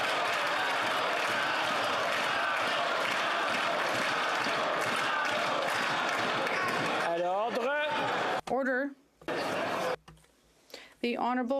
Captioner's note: chanting